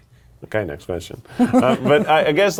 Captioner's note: laughing